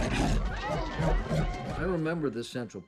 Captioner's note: dog growling